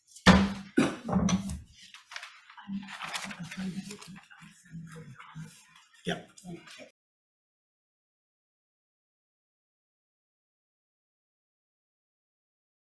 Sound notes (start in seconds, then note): 0.3 gavel pounding; 1.7 papers riffling